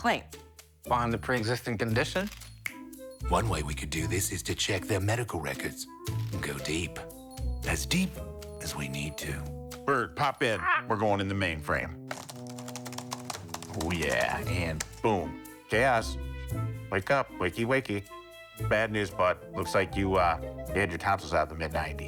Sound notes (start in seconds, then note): 10.6 bird squawks; 12.0 computer keys clacking